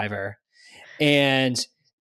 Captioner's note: laughs